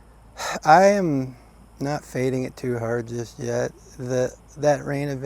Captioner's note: sighs